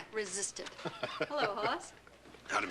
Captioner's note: chuckles